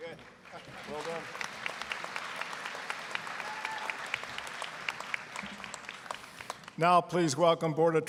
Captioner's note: applause